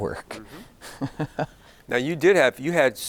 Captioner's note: giggling